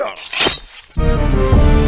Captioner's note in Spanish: sonido de muerte